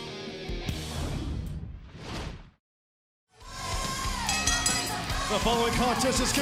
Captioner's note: bell ringing